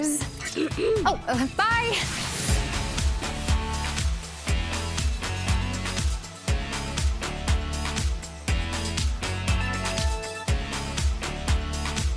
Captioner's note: clearing throat